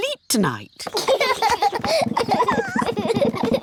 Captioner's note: children laugh